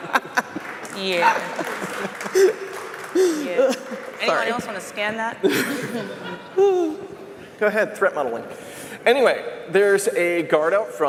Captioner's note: laughter